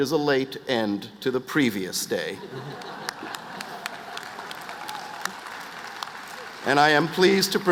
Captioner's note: applause